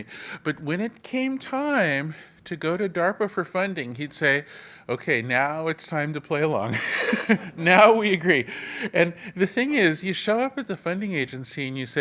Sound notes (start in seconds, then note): 6.8 laugh